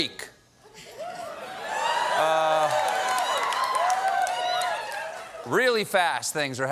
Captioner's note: cheers and applause